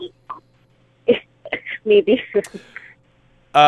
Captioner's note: laughs